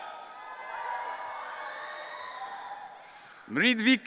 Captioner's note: audience cheering